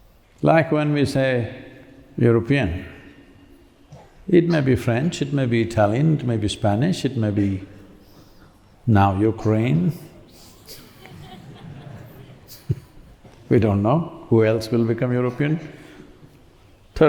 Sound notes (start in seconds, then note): 10.6 laughter